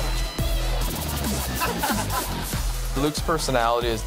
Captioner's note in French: rires